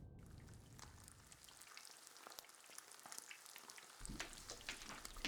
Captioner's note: pan sizzling